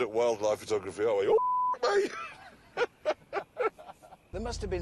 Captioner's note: laughter